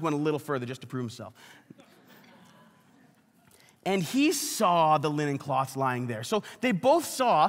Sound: congregation laughs

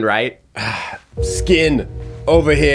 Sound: Chef sighs

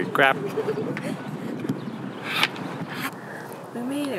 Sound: laughs and makes noises of exertion

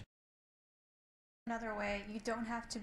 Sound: muted

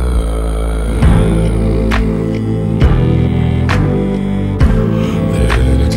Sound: continues humming

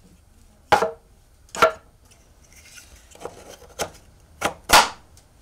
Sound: wood clattering

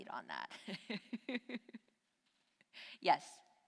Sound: laughs

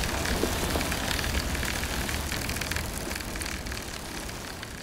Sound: whirring

